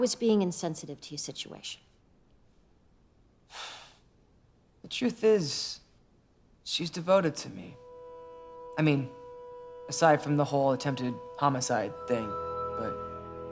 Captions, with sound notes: I was being insensitive to you situation. (sighs) The truth is, she's devoted to me. I mean, aside from the whole attempted homicide thing. But…